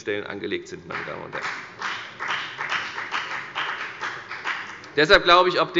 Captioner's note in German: Beifall bei der FDP